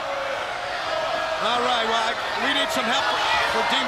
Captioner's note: crowd chatter